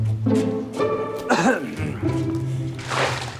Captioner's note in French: Tousse